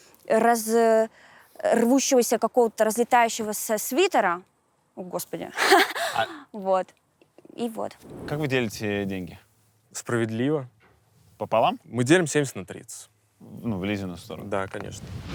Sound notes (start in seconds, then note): 5.6 chuckles